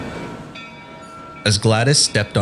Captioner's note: train Station Sounds